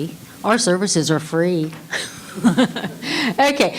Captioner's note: laughing